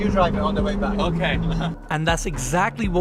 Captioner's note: laughs